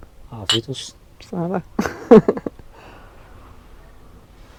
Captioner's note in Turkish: kahkaha